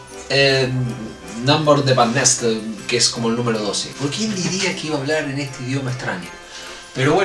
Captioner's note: in croatian